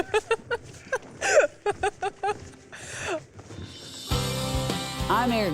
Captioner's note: laughs